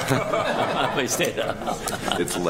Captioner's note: people laughing